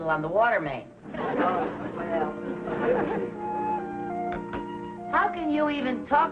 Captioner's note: audience laughing